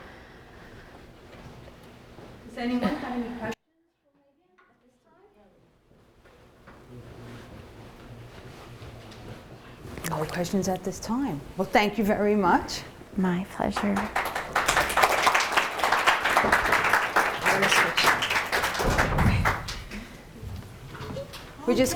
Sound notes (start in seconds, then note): 13.6 audience applauding